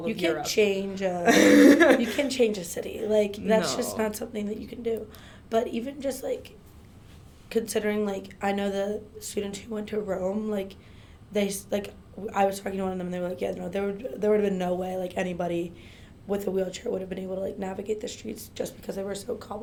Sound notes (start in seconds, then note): 1.2 laughs